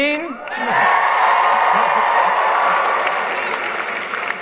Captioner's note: applause